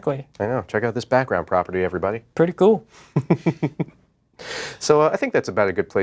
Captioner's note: laughs